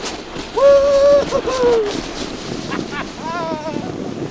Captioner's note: cheers; laughs